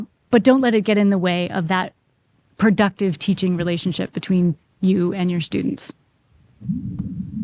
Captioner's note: microphone slides